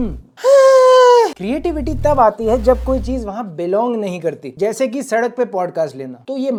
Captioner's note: lustful voice